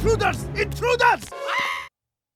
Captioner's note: screams